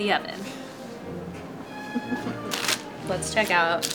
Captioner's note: light orchestral music; laughs